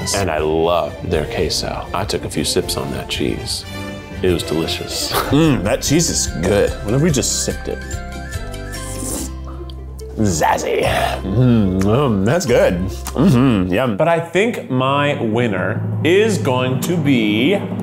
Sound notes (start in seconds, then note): 8.6 slurping; 17.5 drumroll